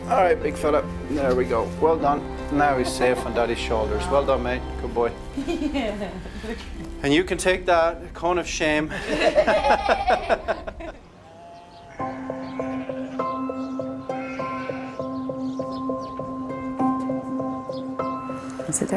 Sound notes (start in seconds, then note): 8.9 all laughing; 12.1 gentle upbeat music; 15.3 birds chirping; 17.2 gentle upbeat music